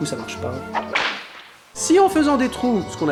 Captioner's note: whip sound